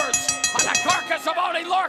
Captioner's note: bell ringing